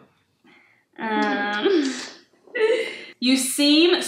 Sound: kissing

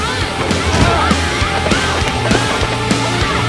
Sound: grunts

